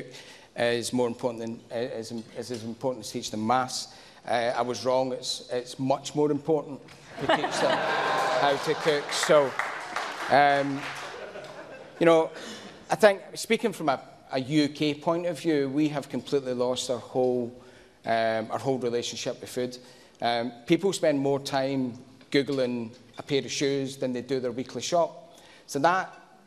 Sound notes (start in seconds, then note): 13.6 laughter